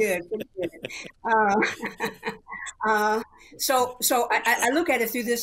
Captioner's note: laughter